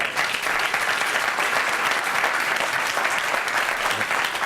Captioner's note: applause